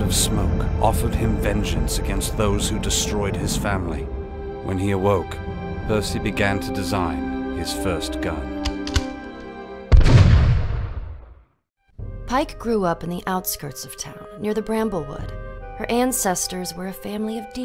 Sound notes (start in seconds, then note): 9.9 gunshot